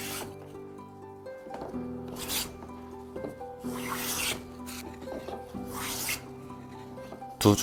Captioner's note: sound of planing